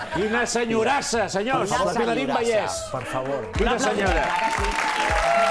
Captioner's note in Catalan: ovació